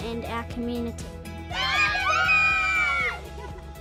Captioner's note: cheering